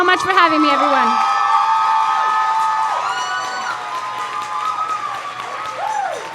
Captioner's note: crowd cheers and applauds